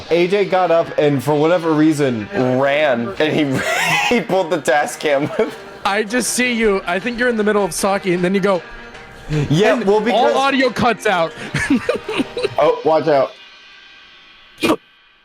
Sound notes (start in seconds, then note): 11.4 laughs